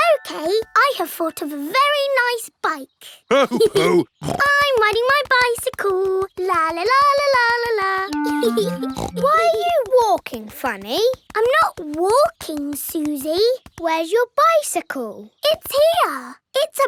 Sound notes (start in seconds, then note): 3.2 laughing; 3.3 snorts; 8.2 laughs and snorts